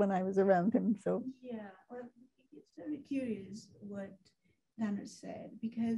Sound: woman's Voice

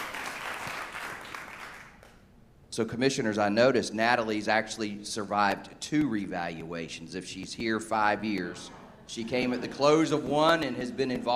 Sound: applause

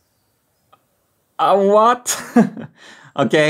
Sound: chuckles

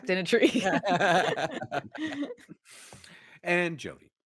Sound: laughs

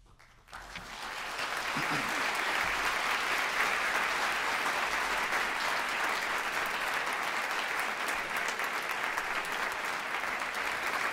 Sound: applause

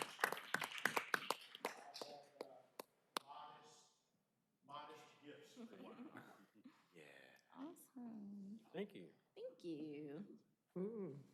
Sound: applause

